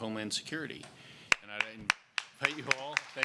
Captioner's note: applause